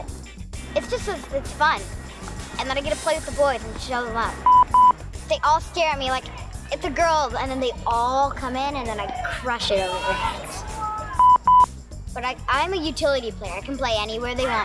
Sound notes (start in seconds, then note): 4.4 signal beeps; 11.2 signal beeps